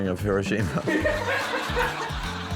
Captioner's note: laughs; laughter